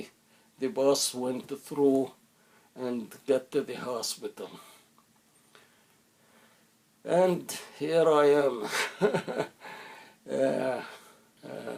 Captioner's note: laughter